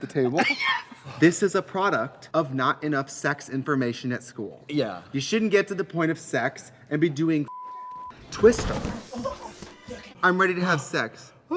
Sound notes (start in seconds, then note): 0.1 laughs; 7.5 beep; 8.2 guys thud